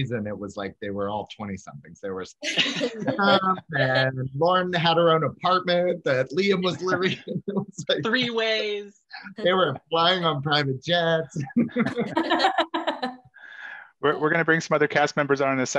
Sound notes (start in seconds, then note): 7.6 laughs; 11.3 all laugh